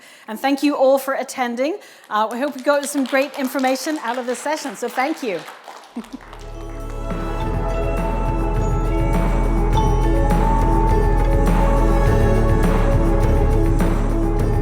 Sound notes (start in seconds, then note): 8.4 applause